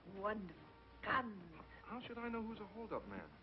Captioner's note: excitedly